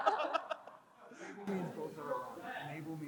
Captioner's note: crowd chuckles; crowd member speaking softly